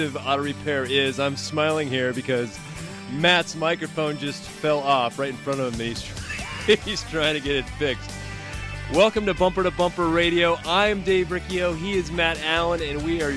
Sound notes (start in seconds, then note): 6.1 laughs